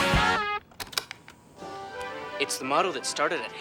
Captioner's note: upbeat rock music; click